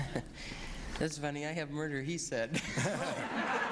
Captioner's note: chuckles